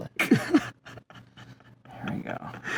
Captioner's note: stifled laughter